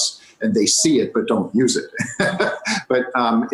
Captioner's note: laughs